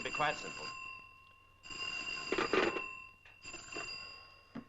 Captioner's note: phone ringing